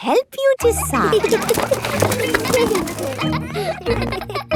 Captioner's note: kids giggling